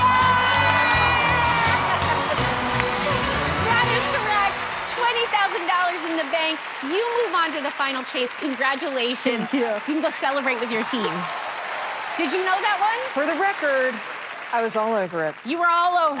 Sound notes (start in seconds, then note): 2.3 cheers and applause